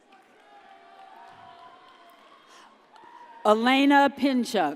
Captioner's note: audience cheers